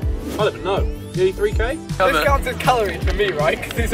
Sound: laughing and shouting

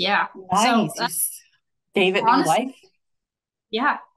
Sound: faintly speaking

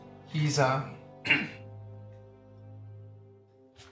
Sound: coughs

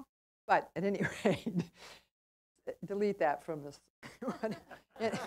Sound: laugh

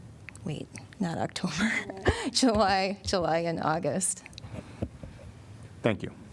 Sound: laughter

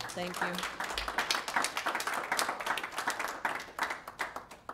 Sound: applause

